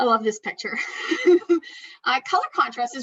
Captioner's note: laughs